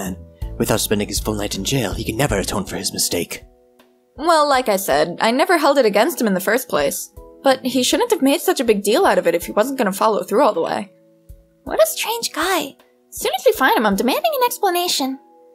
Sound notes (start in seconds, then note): none